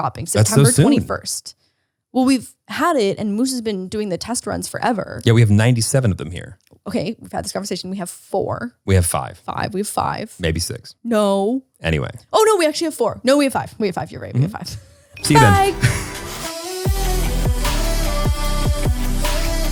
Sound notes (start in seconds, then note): 15.2 upbeat music; 15.3 laughs